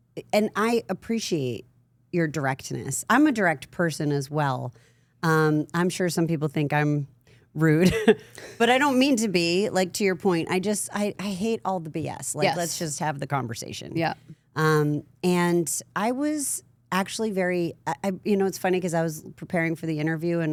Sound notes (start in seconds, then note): 8.0 laughs